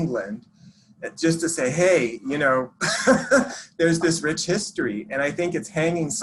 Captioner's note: chuckles